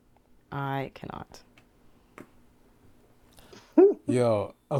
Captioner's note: laughing